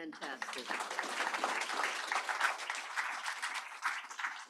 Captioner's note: applause